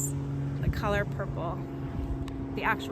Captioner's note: plane engine roaring